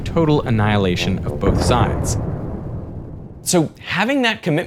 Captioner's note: explosion booms